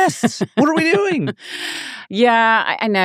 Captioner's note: laughing